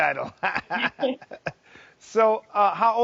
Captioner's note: laughing